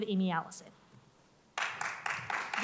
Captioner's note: applause